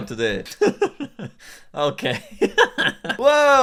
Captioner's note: laughs